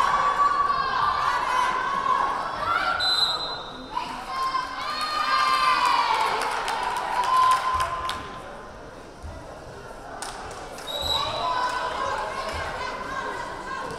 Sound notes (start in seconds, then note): 3.0 whistle blaring; 4.3 crowd cheering; 10.8 whistle blaring